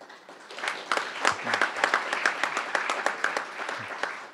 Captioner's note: crowd applauding